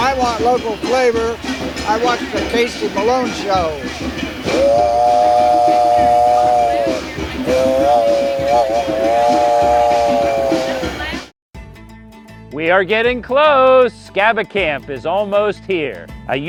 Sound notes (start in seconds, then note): 4.4 speaker imitating train whistle blaring